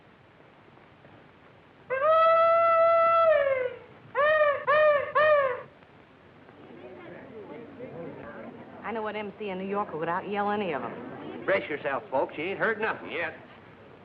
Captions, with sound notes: [hollering] [chatter] -I know an MC in New York who would out yell any of them. -Brace yourselves folks. You ain't heard nothing yet.